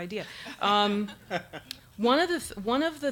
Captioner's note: audience laughs